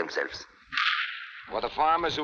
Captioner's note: gunshots blasting